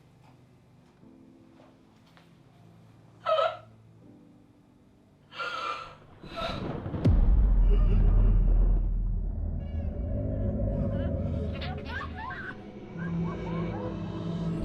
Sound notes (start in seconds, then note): 3.2 Sarah sobs; 6.2 thunder rumbles